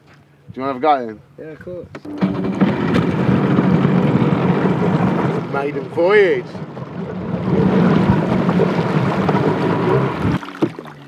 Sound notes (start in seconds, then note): 2.1 engine starting; 6.6 engine revving